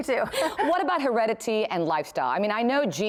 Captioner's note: laughter